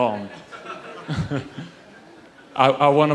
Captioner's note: audience laughs